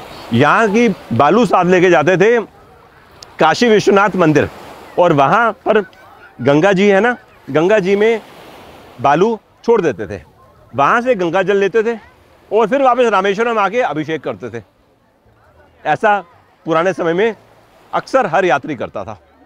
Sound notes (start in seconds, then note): 12.7 water of the river